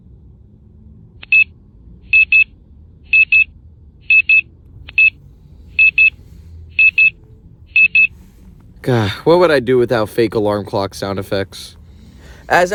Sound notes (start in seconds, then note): 1.6 alarm beeping